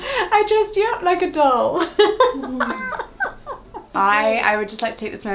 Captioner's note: laughing